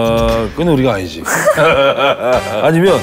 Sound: laughing

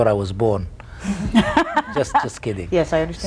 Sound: laughs

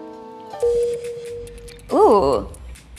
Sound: sign dings

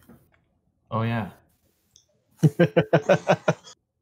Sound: laughs

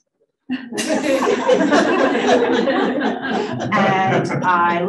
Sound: audience laughing

